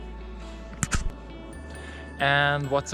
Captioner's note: click